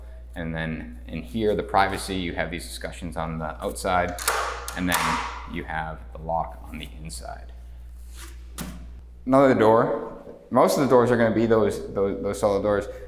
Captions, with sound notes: and then in here, the privacy, you have these escutcheons on the outside, (locks clicks) and then you have the lock on the inside. (hand thuds) Another door. Most of the doors are gonna be those solid doors